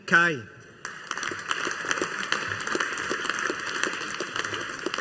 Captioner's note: audience applauding